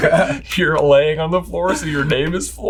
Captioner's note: laughter